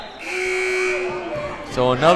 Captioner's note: timer buzzes